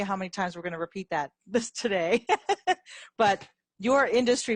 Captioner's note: laughs